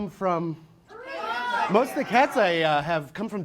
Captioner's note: audience yells places